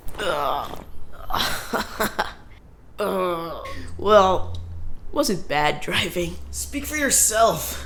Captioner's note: chuckles